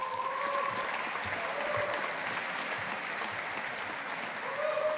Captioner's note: audience applauding